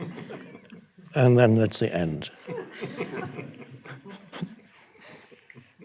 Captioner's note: audience laughs